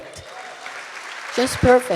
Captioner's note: audience applauding